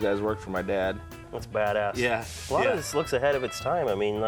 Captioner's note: laughs